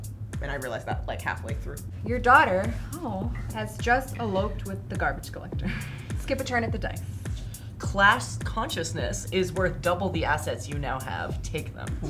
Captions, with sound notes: and I realized that, like, halfway through. - Your daughter, aw, has just eloped with the garbage collector. (laughs) Skip a turn at the dice. - Class consciousness is worth double the assets you now have, take them.